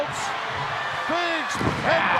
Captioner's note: audience cheering